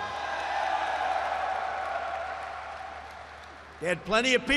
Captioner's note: applause